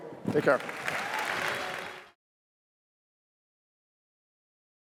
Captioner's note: applause